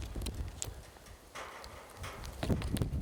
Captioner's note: metal clanking